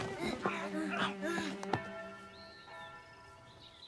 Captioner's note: church Bell Ringing